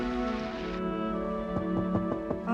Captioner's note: knocking on door